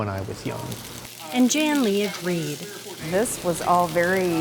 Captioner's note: voiceover